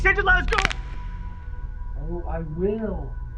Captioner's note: neck cracks